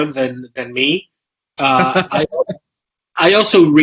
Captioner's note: laughs